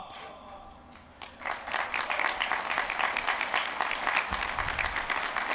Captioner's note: applause